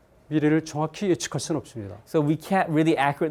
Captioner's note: speaking in Korean